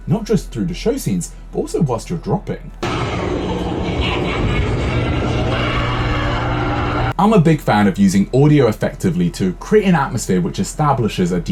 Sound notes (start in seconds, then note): 2.8 monsters cackling